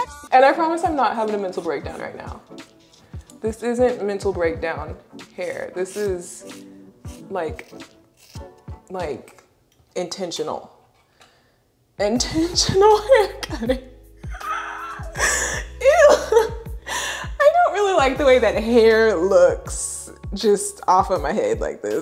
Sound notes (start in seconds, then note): 14.3 laughs